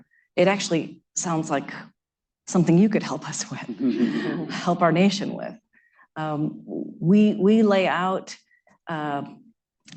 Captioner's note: laughter